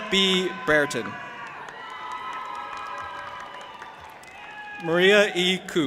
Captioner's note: audience applauding and cheering